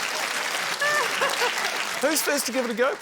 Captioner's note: laughs